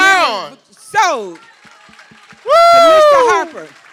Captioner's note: applause